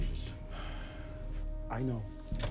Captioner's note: Steve sighs